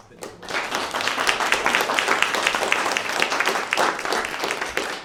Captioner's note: applause